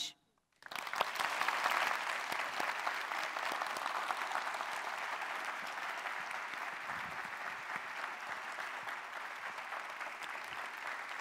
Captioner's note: applause